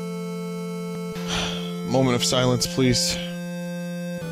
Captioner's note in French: soupir